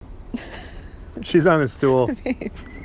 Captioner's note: laughing